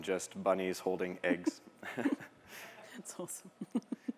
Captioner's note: laughter